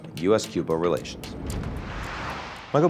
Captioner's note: screen whooshes